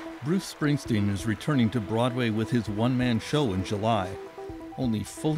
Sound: cheers and Applause

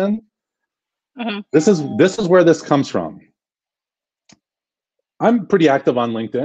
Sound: phone dings

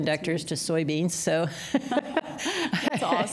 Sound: laughter

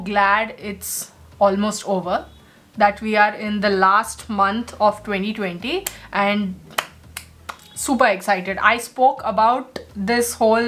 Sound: claps

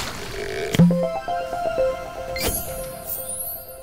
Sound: playful chime

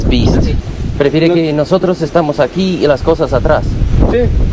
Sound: speaking in Spanish

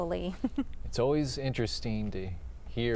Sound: laughter

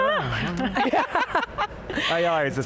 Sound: all laughing loudly

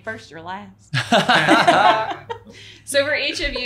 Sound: laughing

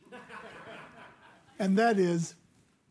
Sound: audience laughing

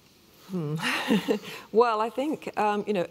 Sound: laughs

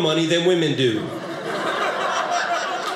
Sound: audience laughing

